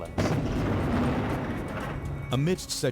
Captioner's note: explosion blasts